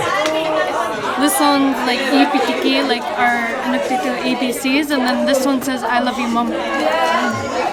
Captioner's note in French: inuktitut